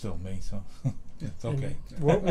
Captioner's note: laughs